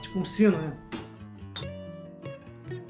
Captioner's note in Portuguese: martelando